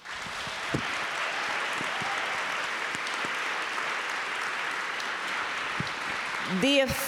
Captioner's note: applause